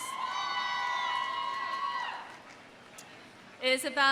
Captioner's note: audience cheering; audience applauding